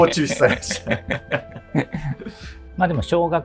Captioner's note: laughing